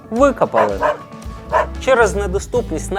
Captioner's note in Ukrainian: чутно гавкіт